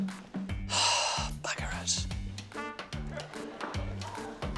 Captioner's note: sighs; laughter